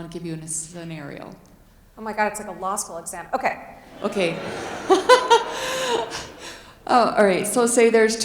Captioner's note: chuckles